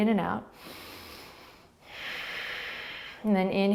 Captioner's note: inhaling and exhaling